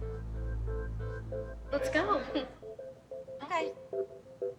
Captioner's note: laughs nervously